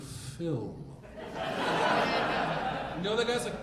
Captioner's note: audience laughing